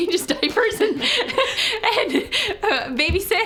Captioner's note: laughing